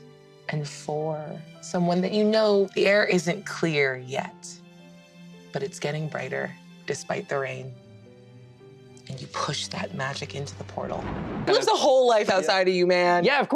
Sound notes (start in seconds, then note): 10.8 thunders